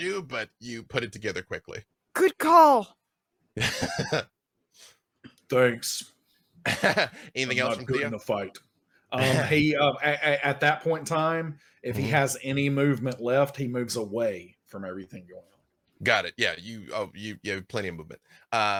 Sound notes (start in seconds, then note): 3.6 laughing